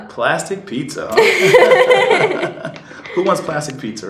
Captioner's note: laughing